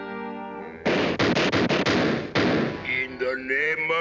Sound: explosions

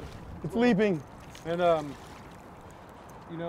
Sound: fish splashing

